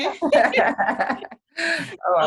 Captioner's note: people laugh